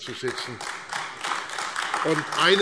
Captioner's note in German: Beifall AfD